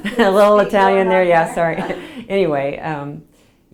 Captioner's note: laughs